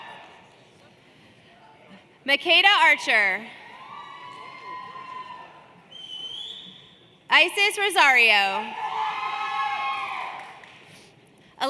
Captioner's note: cheers and Applause